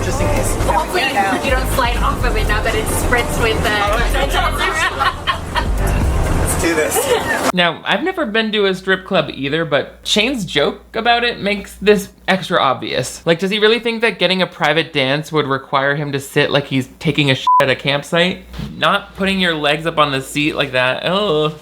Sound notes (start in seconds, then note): 3.7 laughs; 17.4 beep